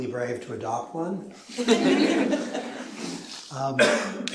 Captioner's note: laughter